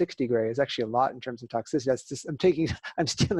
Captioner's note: laughter